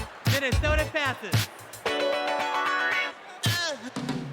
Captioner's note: cheers and applause